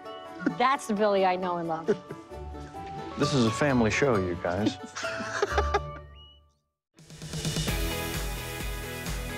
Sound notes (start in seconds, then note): 4.6 all laughing